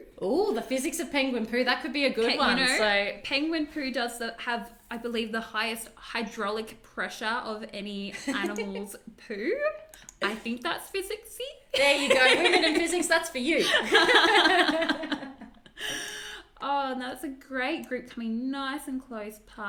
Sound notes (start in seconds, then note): 11.8 laughs; 13.6 both laugh